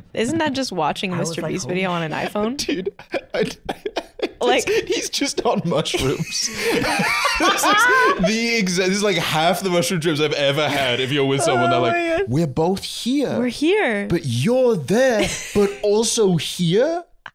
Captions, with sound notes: Isn't that just watching a MrBeast video on an iPhone? I... (laughing) he's just on mushrooms. This is the exact – this is like half the mushroom trips I've had. If you're with someone, they're like, - "We're both here!" - "We're here!" "But you're there, but also here?"